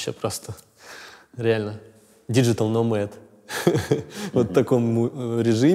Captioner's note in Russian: смеется